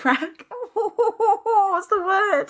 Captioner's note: laughing